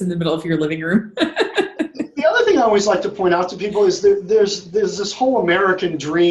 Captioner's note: laughs